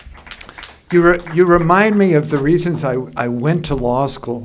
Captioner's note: applause